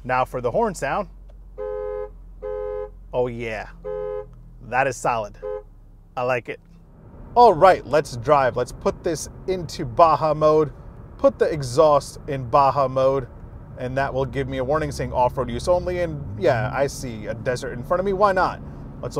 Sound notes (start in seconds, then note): 1.6 truck horn beeps